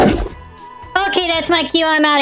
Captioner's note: loud growl is heard